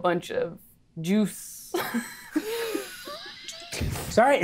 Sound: players laughing

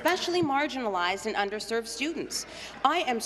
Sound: none

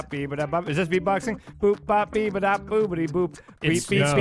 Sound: more bad beatboxing

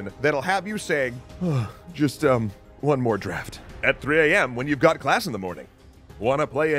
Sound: yawn

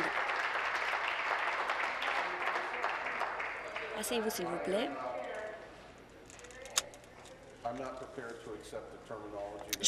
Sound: applause

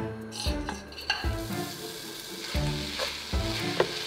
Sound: sizzling

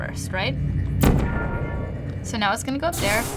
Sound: gun zaps

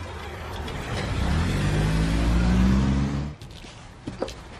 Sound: revving car engine

